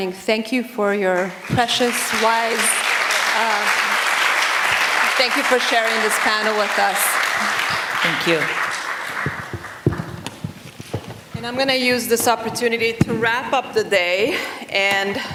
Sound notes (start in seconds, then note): 1.1 applause